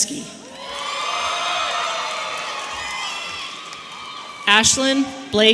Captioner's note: audience cheering